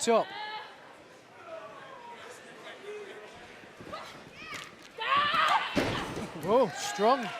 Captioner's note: crowd chatter